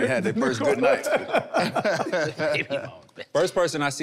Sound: everyone laughing amusingly

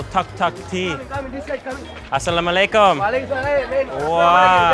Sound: speaking foreign language

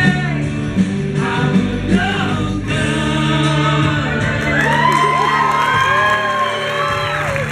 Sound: audience cheers

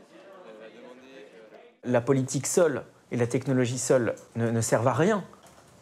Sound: speaking in a foreign language

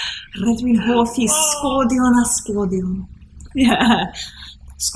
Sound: speaking Welsh

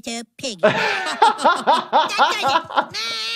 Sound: doctor laughing; laughing

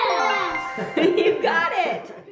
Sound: laughing

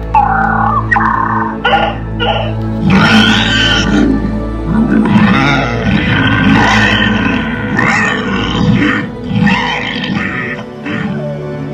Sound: dracorex growling

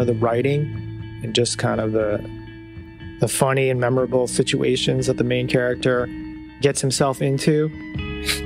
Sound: chuckle

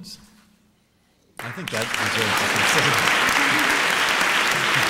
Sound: applause

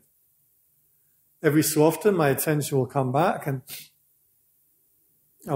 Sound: breath

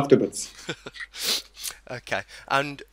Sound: both laugh

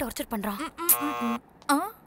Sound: door bell rings

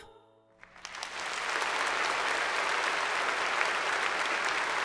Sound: applause

